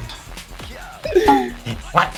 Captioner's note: laughs; bamboo Hit SFX